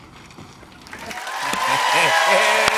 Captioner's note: cheers and applause